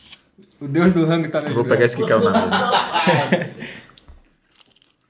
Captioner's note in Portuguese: risos